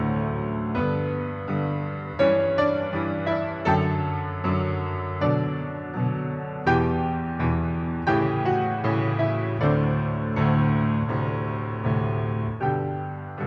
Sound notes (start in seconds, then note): none